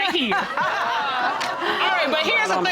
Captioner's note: all laughing